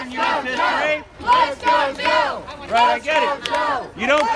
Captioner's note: crowd